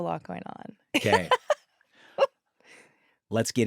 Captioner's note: laughs